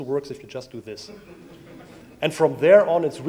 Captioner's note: audience laughs